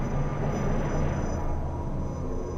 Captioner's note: aircraft noise